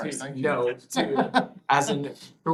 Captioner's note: laughter